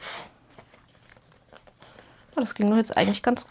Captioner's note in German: schnauben